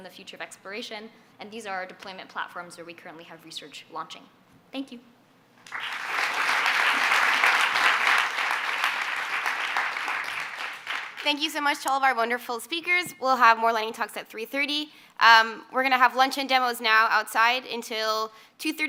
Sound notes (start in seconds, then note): 10.1 applause